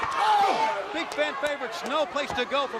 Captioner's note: crowd chatter